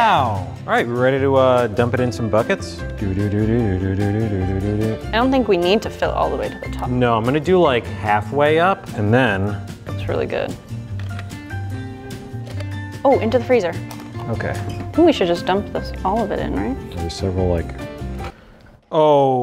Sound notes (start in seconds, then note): 2.8 humming the beat to a song